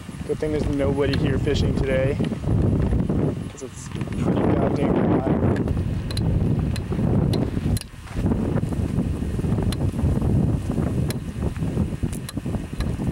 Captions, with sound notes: good thing there is nobody here fishing today cause it's pretty god damn hot *wind noises* *wind*